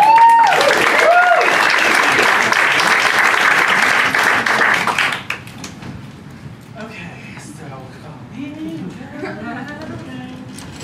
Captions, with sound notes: (applause) Okay, so, come with ME!